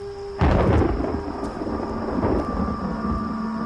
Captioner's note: Clouds rumbling